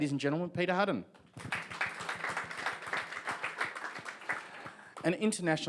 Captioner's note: audience applauds